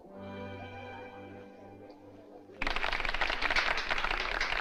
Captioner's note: applauding